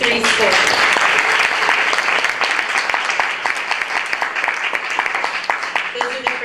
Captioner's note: applause